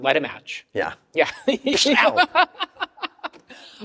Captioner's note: laughs